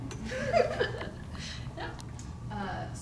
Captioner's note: chuckles